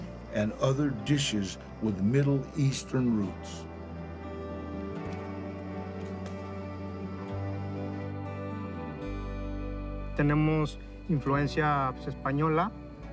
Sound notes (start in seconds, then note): 3.8 flames hissing; 10.5 in Spanish